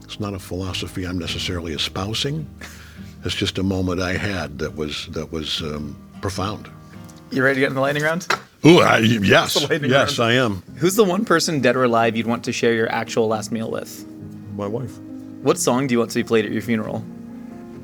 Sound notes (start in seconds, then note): 2.6 chuckling; 9.0 flashcards shuffling; 14.0 sentimental music